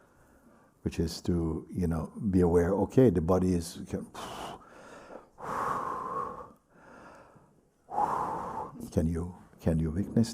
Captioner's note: strong exhales of discomfort